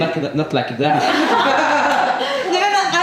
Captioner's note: laughs